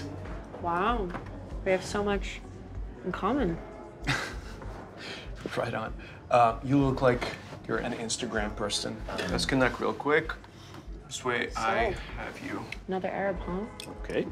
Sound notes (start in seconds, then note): 4.0 laughs